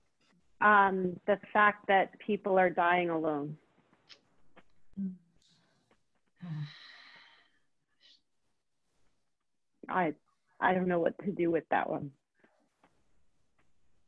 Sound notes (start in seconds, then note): 6.4 sighs